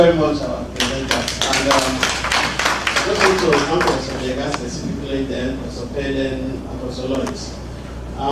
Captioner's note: applause